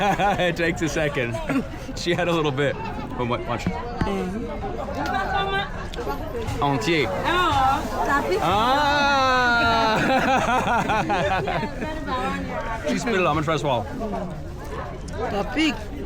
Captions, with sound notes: It takes a second. She had a little bit from lunch. (people speaking foreign language) - She spit it out. I'm gonna try to swallow.